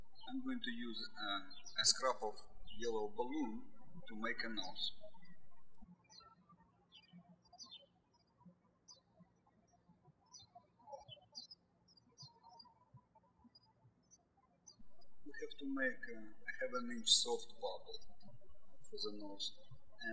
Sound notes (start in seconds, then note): 5.9 birds chirping